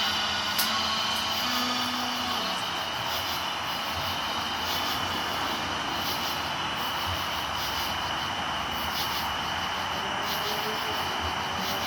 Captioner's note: crickets